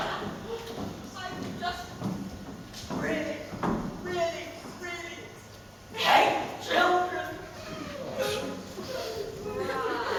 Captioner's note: sniffling and sobbing